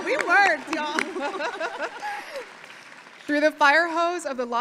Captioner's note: audience applauding